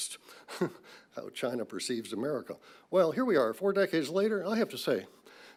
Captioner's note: laughs